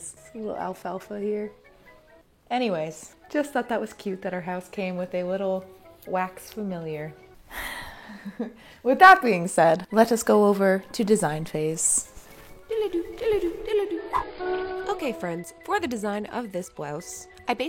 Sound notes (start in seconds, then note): 12.6 humming